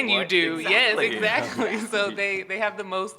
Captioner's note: chuckles